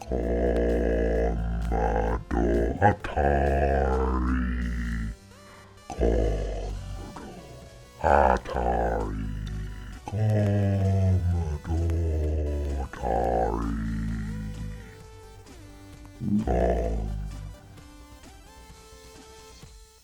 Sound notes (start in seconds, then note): 0.0 dogs growling in slow motion; 5.5 dogs still growling in slow motion